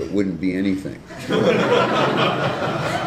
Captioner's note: laughter